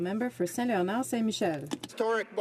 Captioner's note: some Applause